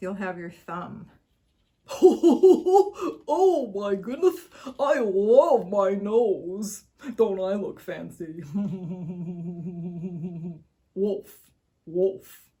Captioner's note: Goofy laughter